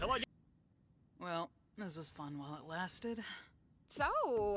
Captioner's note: sarcastically